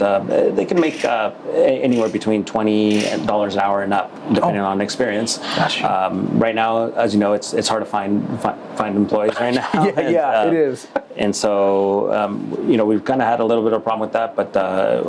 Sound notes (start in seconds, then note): 9.5 laughs